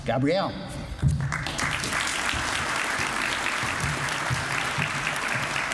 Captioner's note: applause